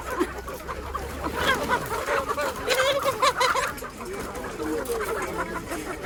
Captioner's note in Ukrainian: сміх